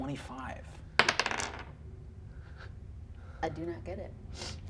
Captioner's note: die rolls